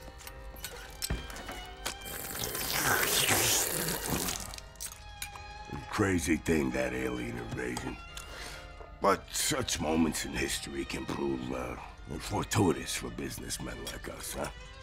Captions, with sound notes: [slurping] Crazy thing, that alien invasion. But such moments in history can prove fortuitous for businessmen like us.